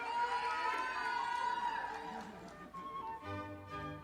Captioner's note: audience applauding